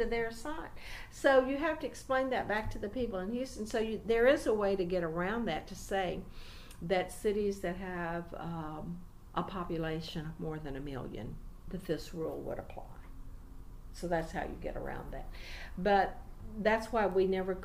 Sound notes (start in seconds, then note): none